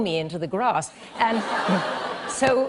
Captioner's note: laughter